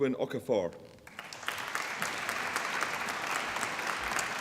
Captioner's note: applause